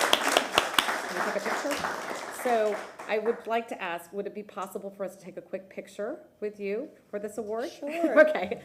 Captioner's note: applause